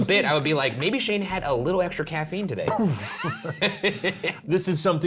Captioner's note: laughing